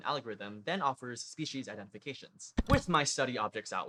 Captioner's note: click